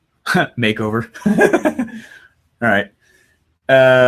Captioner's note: laughs